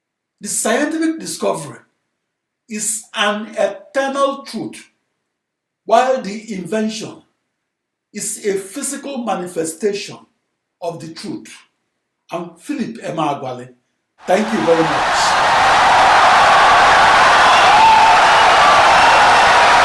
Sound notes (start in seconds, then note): 14.2 audience cheering, applauding for 17 seconds